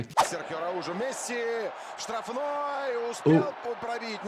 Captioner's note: commentator talks in foreign language